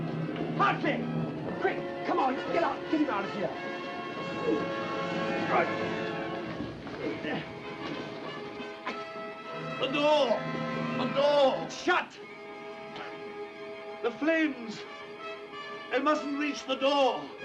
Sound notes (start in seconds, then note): 4.9 grunts; 17.2 fast-paced music